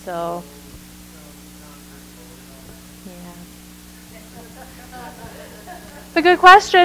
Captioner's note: microphone feedback drowning out audience member